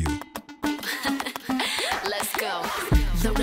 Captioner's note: laughs